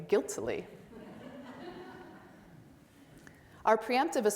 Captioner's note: audience laughs